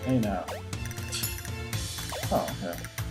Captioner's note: scoffs